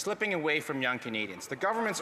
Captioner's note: some Applause